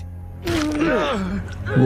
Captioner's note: Dr. Elias Brandyworth groaning